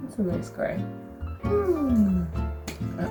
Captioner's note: happy noises